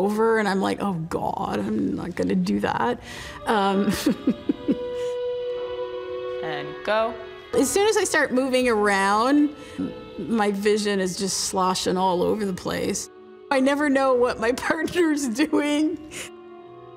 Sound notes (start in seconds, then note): 3.8 chuckles